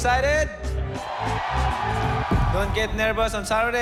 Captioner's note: cheers and applause